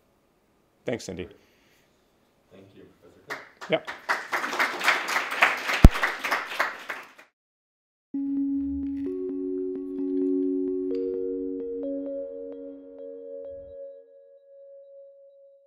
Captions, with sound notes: Thanks Cindy. (audience clapping) (upbeat music)